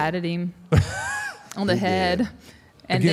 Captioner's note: Mark laughs